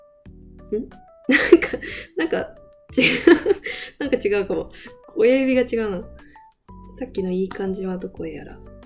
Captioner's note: laughs